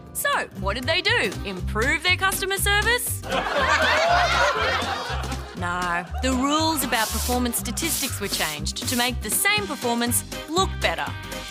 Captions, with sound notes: So, what did they do - improve their customer service? (Laughter) No. The rules about performance statistics were changed to make the same performance look better.